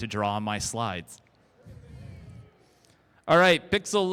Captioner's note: crowd